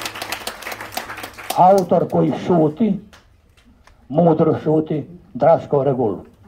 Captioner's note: applause…